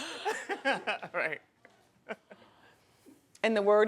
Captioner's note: laughing